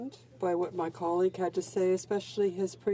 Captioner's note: speaking French